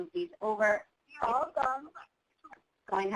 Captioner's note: voiceover